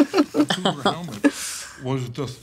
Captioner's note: all chuckling